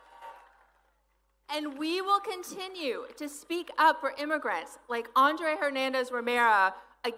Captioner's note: applause